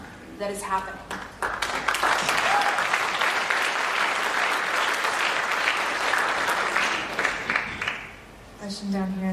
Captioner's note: applause